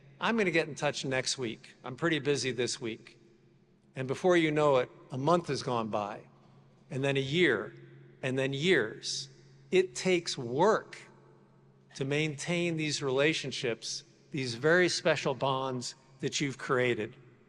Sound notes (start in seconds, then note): none